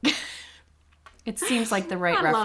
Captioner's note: chuckles